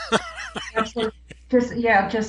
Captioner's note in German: lacht